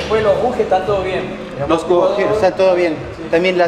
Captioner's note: in Spanish